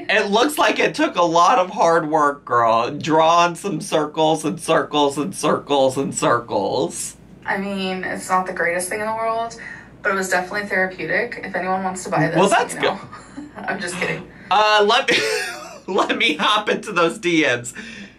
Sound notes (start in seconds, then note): 15.0 chuckles